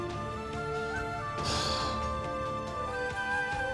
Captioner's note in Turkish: Nefes sesi